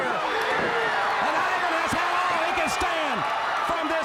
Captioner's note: crowd cheering